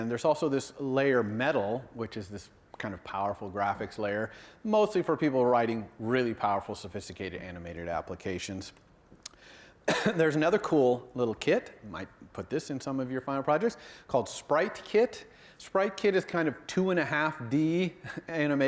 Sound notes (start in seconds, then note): 9.8 cough